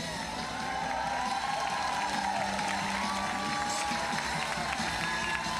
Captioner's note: audience applauding and cheering